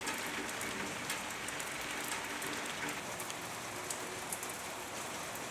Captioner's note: raining